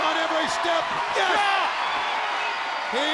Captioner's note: Sting shouts